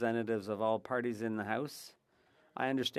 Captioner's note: speaking French